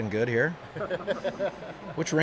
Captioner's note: audience laughs